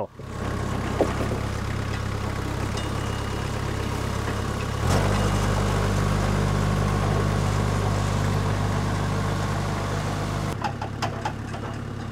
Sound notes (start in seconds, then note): 0.3 skid steer engine humming; 3.5 skid steer engine revving